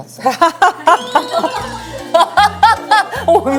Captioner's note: and again, bursting into hearty laughter